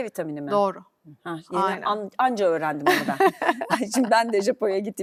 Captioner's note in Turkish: kahkaha